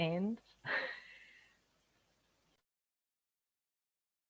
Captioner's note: giggles